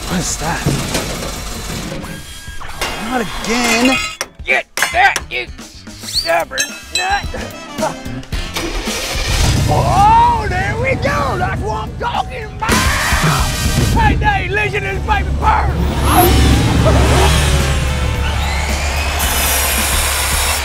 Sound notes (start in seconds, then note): 8.3 engine revs; 15.8 engine revs; 19.0 saw vibrates